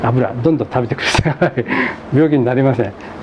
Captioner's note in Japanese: 笑い